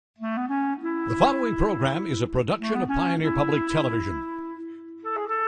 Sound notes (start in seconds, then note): 1.3 voiceover